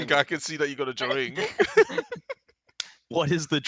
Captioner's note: laughs